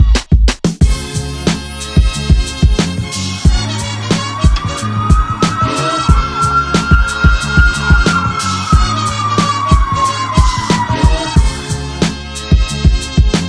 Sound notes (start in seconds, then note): 4.0 siren; 7.0 upbeat music